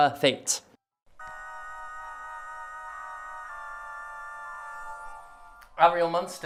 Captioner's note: sounds of game being played throughout talking